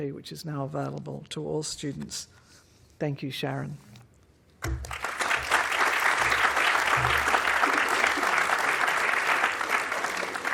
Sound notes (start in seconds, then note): 4.7 audience applauding